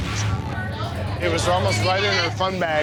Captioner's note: customers chattering